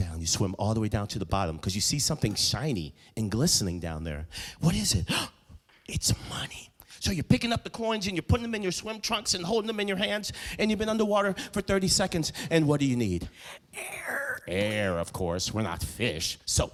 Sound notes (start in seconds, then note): 5.1 loud gasps